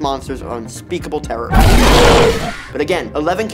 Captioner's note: monstrous roaring